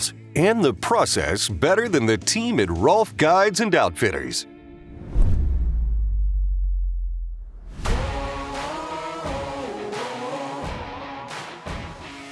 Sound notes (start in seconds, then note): 4.7 logo swooshes; 7.9 uptempo music